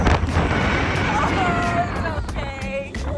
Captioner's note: screaming more